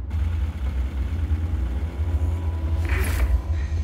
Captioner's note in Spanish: Ruido de la moto